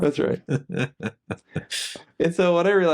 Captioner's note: laughing